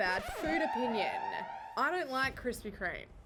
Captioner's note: alarm sounding